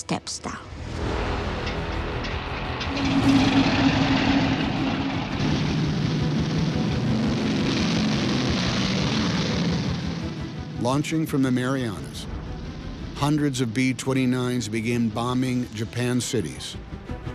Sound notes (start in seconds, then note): 0.3 dramatic music; 2.5 propeller rumbling; 5.1 bombers rumbling; 6.0 dramatic music